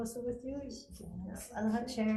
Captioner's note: murmuring